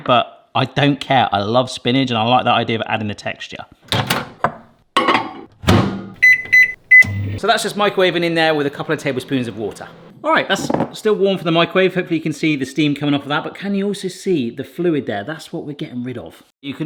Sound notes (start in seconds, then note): 4.0 cutlery clinking; 6.2 microwave beeping